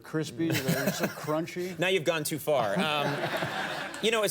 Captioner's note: Conan laughing; audience laughing